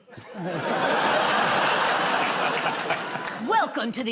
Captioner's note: laughter